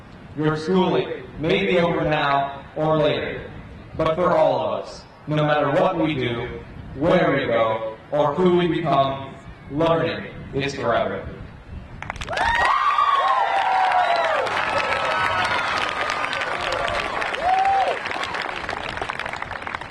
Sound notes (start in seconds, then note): 12.0 crowd applauding; 12.2 crowd cheering